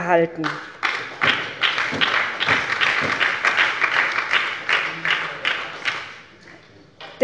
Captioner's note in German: Beifall bei der SPD